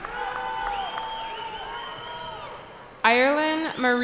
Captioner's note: cheering